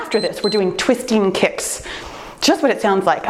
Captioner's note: timer beeps